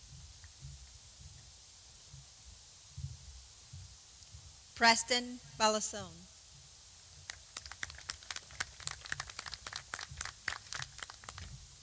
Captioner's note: applause